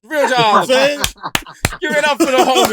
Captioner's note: laughter